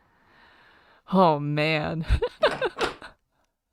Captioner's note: laughs